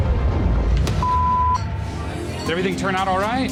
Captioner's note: beep